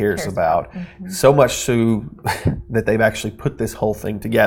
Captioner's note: chuckles